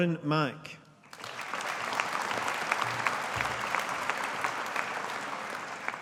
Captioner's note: audience applauding